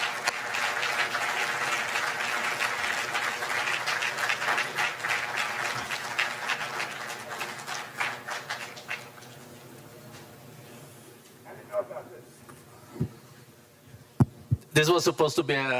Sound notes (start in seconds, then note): 0.0 applause; 4.7 applause